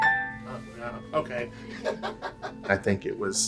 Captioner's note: laughs